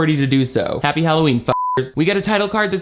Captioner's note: beep